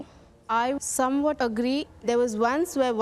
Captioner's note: none